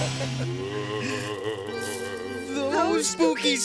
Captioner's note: ghostly moaning